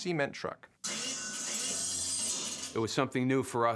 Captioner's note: metallic clattering